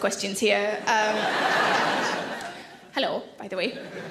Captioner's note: audience laugh